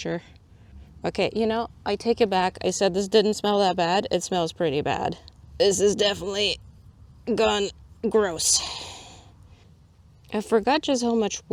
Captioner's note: exhales